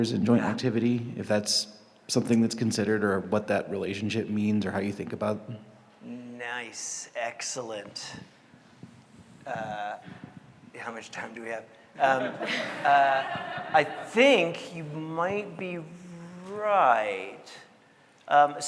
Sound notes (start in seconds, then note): 12.0 audience laughing